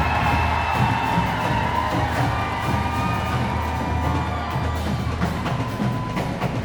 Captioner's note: cheering continues